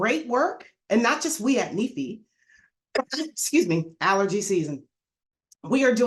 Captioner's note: coughs